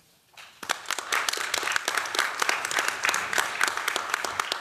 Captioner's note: applause